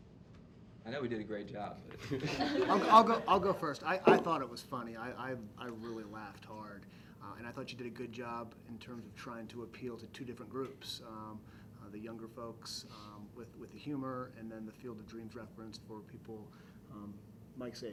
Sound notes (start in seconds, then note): 1.9 laughter